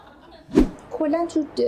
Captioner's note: laughter